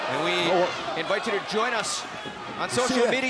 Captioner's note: crowd cheering